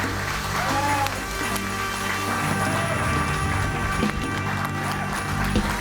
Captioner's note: audience cheering and applauding